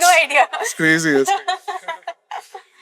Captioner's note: laughs